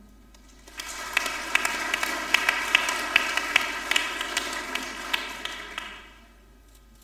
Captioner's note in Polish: oklaski